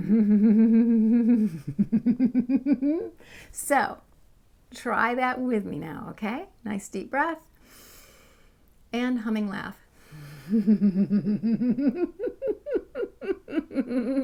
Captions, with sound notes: so try that with me now. okay nice deep breath and humming laugh... (laughter)